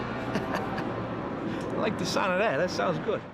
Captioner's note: chuckles